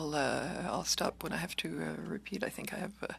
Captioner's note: speaking in French